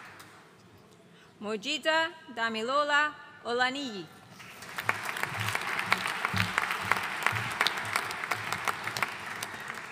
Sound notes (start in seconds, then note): 4.4 audience applauding